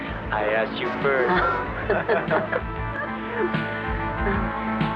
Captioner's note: laughing